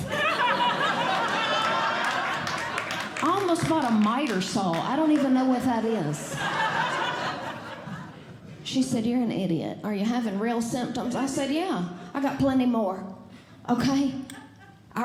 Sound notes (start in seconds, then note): 0.0 audience Laughing; 6.7 audience Laughing